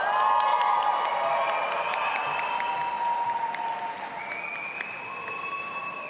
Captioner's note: audience applauding and cheering